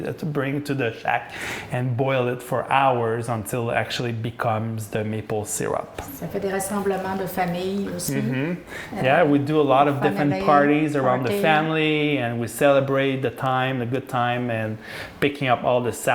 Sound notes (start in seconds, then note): 7.1 French